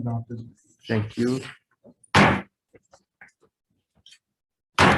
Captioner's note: gavel bangs